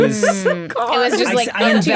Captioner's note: laughing